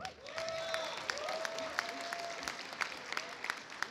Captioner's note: audience applauds